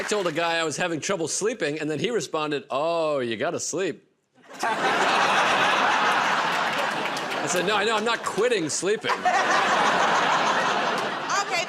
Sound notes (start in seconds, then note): 4.4 laughter